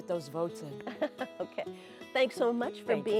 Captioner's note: laughs